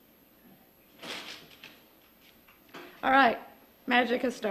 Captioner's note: paper rustling